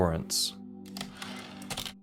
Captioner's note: typewriter return slide